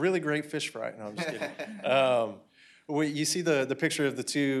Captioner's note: laughter